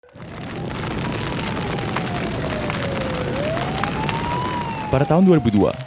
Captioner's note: sounds of a fire